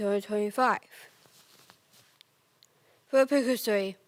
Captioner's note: rustling